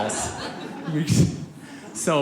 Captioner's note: audience laughs